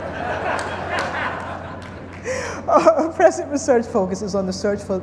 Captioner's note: group laughing